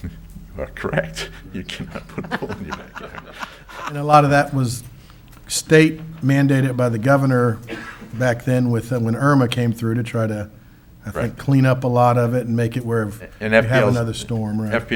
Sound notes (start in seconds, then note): 0.5 laughs; 3.0 council laughs